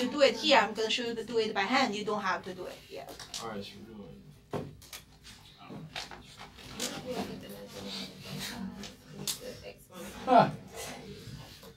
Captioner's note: students murmur